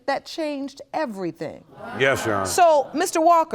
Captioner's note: audience gasping